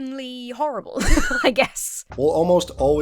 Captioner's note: laughs